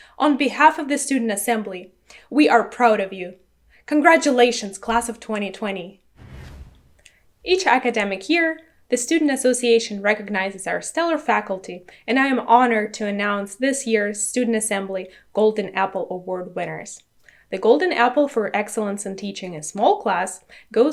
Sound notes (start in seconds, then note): 6.1 air whooshing